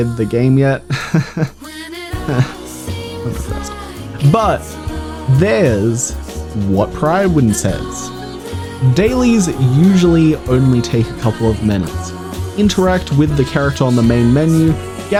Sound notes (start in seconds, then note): 2.2 cries in despair